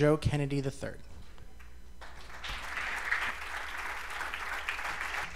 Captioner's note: cheers and applause